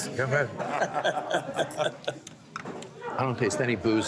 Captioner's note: laughs